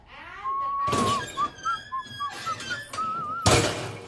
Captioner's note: whistling